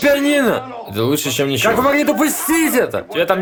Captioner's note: baby crying